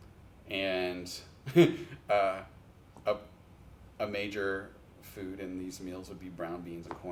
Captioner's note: chuckles